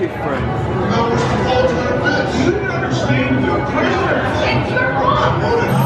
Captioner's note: pre-show chattering